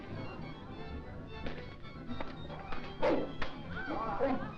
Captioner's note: lion snarling; crowd gasping; whip thudding